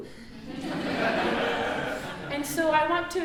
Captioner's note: audience laughing